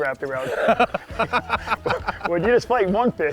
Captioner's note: laughs